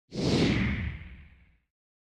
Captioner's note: swoosh